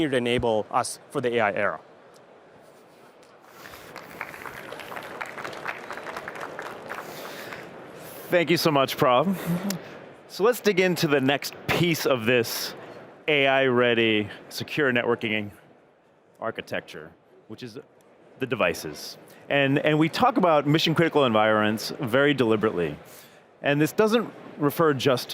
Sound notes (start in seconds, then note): 6.6 applause